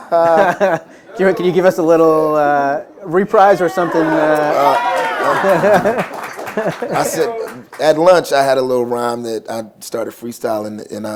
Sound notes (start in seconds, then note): 4.6 applause